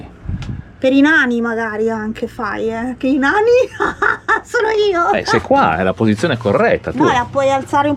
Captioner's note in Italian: risate